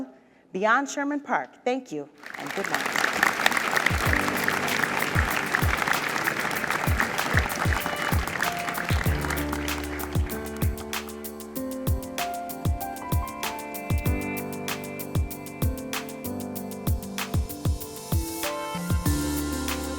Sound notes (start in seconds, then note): 3.6 audience applauds; 4.7 light instrumental music